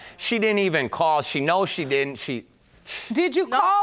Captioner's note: scoffs